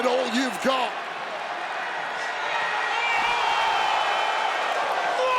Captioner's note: crowd exclaiming; Bron Breakker yelling